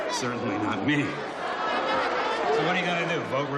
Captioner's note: crowd shouting